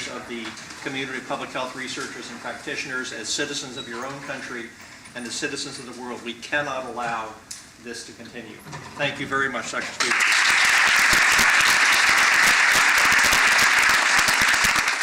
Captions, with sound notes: of the community, public health researchers and practitioners, as citizens of your own country, and of citizens of the world, we can't allow this to continue. Thank you very much, Dr. Spiegel. [APPLAUSE]